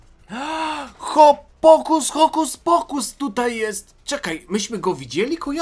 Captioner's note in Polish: wciągnięcie powietrza